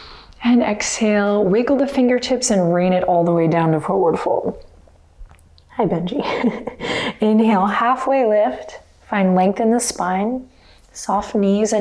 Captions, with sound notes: And exhale. Wiggle the fingertips and rain it all the way down to Forward Fold. Hi, Benji. (chuckles) Inhale, halfway lift. Find length in the spine. Soft knees.